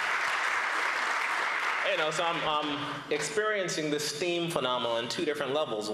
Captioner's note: applause